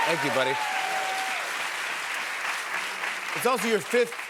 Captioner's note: applause